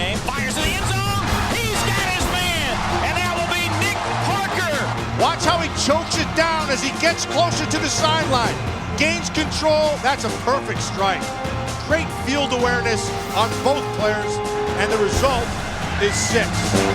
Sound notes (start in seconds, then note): 5.3 voiceover; 9.9 voiceover